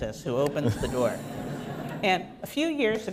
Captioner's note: laughter